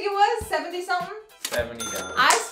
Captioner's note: ka-ching